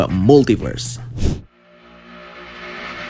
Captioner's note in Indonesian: suara transisi